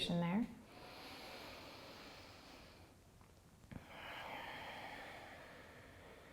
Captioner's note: deep breathing